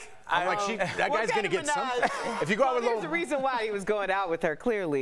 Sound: laughter

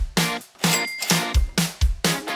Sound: ka-ching

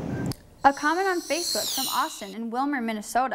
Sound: voiceover

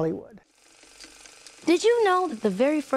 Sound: projector clicking

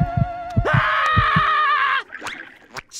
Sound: screaming

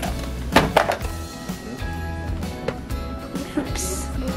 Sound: item falls

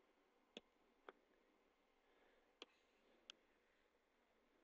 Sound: mouse clicks

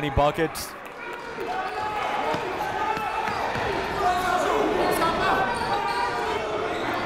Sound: crowd talking; coaches yelling

